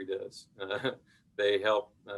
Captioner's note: chuckles